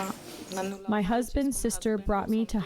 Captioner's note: through translator